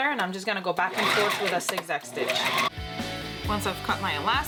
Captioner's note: machine whirring